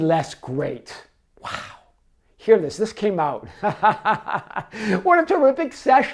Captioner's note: laughs